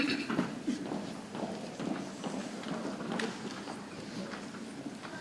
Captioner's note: people chattering softly